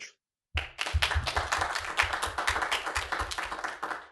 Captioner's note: applause